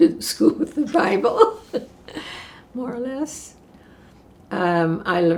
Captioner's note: laughing